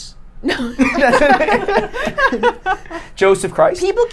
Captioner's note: laughing